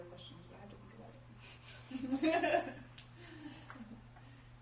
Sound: laughter

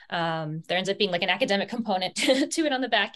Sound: laughs

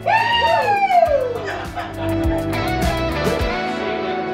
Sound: whoops

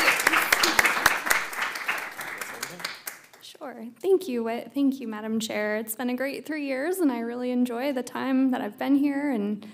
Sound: applause

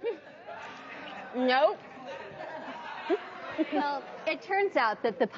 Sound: audience laughing; giggling

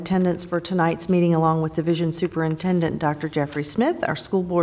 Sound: none

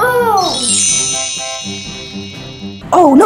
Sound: sparkling sound

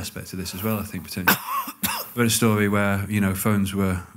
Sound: coughs in background

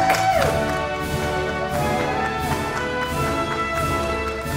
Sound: audience applauding

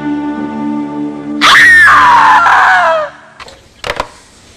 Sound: also now in old cartoon voice; screams

